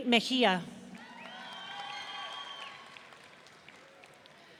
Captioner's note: audience cheering